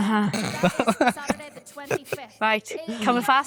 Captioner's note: pair laughing